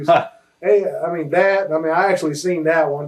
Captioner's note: chuckles